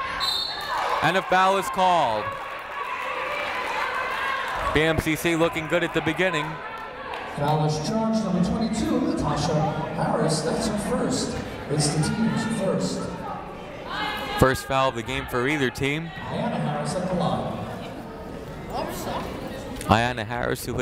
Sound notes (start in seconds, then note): 0.1 whistle blowing; 3.6 clapping